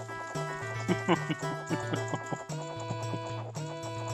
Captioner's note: chuckles maniacally